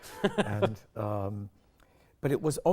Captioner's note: both laughing